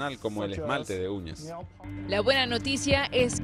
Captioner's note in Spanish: habla en inglés